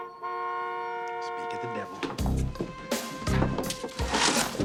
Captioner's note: car Horn Honking